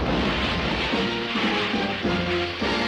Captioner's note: water splashing; bright playful music